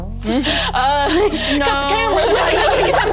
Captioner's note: all laugh